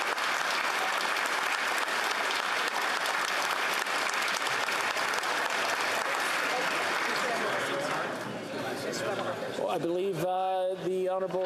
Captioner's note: applause